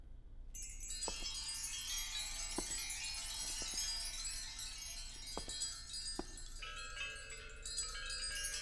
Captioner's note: wind Chimes